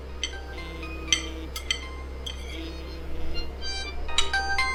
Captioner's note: phone rings